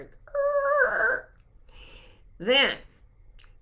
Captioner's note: mimicking screeching car